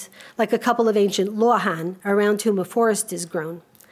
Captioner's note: speaks a foreign language